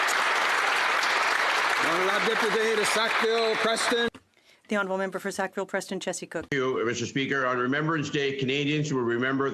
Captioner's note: some Applause